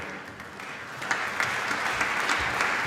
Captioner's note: applause